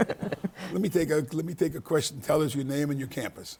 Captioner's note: laughing; panelists laughing